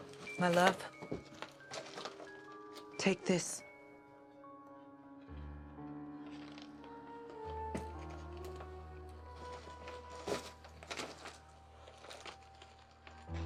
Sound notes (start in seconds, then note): 5.5 mysterious music continues; 6.2 footsteps crunching